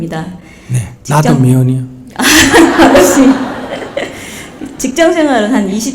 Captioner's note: audience Laughter